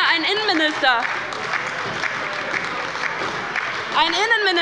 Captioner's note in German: Beifall bei der LINKEN und der SPD - Widerspruch bei der CDU